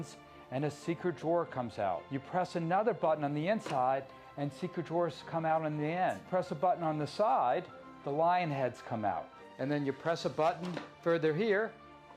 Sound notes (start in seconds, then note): none